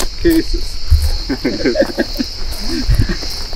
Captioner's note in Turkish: Gülüşmeler